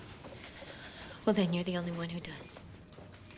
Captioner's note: shuddering